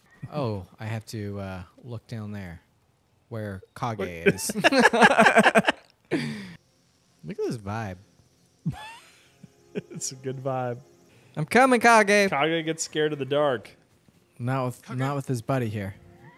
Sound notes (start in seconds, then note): 0.0 both laughing; 4.0 both laughing